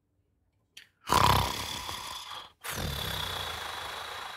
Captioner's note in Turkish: horlama